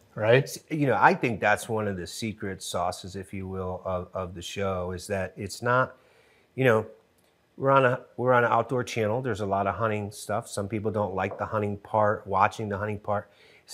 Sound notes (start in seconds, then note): none